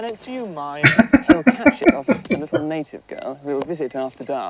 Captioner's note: laughing